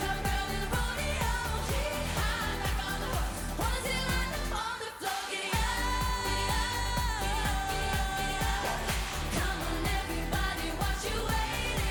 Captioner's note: Applåder